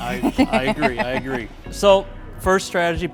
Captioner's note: laughing